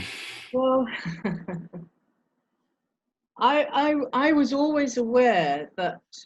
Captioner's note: chuckling